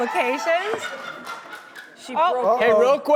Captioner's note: screams